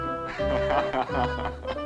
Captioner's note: laughing